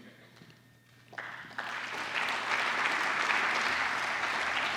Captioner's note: applause